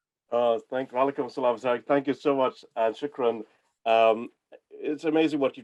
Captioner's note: non-english